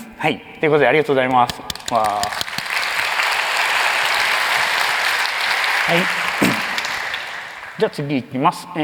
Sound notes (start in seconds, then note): 1.7 applause